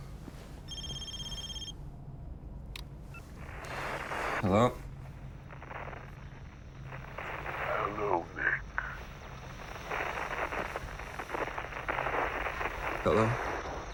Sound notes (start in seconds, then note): 0.0 phone rings; 5.1 static hisses; 9.1 static hisses